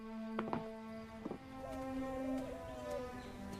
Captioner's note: pigeons Cooing